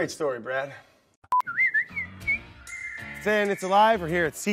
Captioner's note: whistling